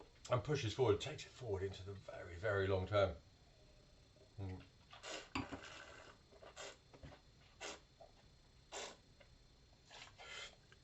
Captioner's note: slurping